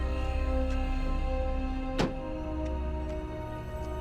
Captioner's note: thud sound